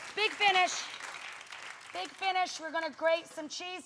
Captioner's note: audience clapping